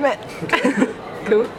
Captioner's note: laughing